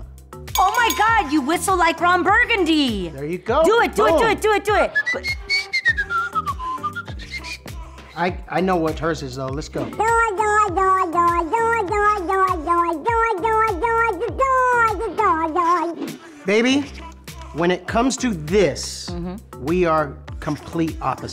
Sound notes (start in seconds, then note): 4.9 whistles; 10.0 imitates duck yodeling